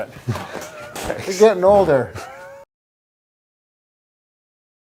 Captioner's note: chuckles